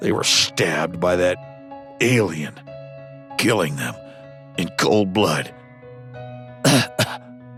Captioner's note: cough